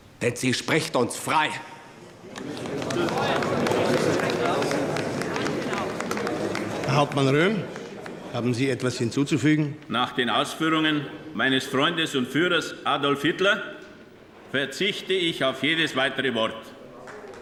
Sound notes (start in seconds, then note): 2.0 applause, murmuring